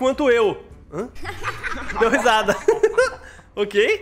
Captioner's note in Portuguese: risos